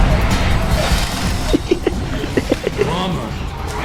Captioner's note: laughs to myself